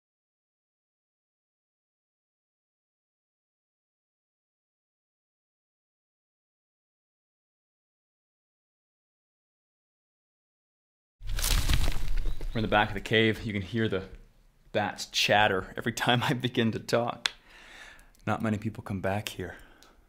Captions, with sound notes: (rustling) We're in the back of the cave. You can hear the bats chatter every time I begin to talk. Not many people come back here.